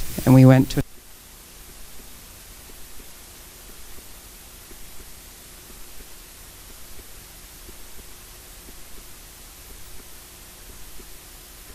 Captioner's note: sound cuts out -- sound of indecipherable static